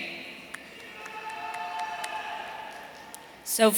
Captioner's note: audience cheering